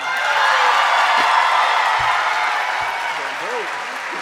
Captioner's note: audience cheering